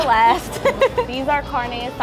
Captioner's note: laughter